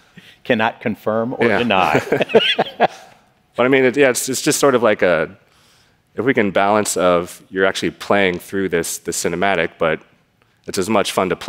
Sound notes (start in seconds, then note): 1.6 laughter